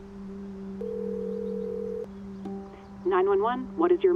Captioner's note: phone ringing